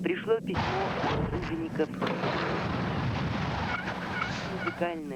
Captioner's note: snow crunch